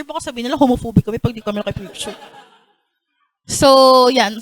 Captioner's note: laughter